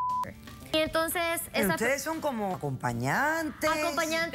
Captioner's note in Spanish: Bip